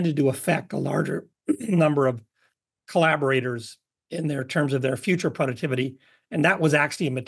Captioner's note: cough